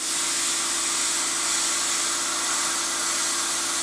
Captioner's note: sparks hissing